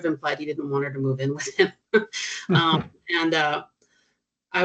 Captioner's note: chuckling